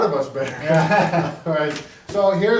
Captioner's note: laughs